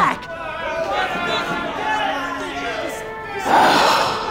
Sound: crowd heckles

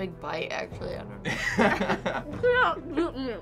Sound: laughs

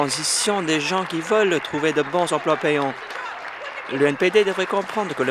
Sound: applause

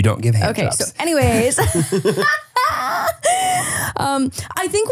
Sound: laughs

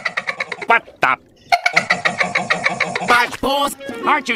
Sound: hehehehehe; hehehehehe

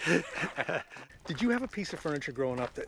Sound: laughs

